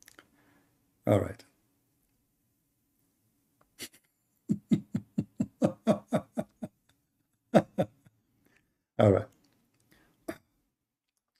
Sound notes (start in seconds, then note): 4.4 Ketawa